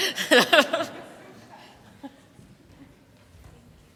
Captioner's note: laughter